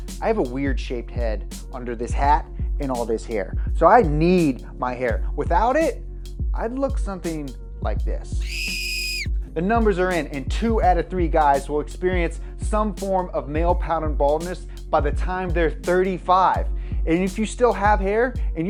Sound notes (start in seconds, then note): 8.4 child shrieking